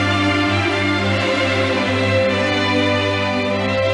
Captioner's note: audience applauding